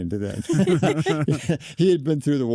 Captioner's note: group laughs